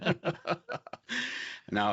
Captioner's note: both laughing